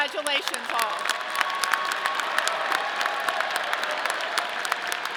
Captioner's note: audience clapping